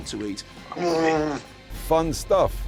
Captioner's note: person grunts